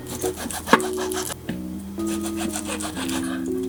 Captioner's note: chopping